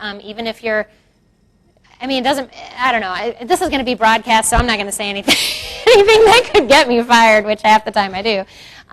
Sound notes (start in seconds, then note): 6.0 laughs